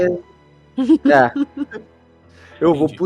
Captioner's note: laughter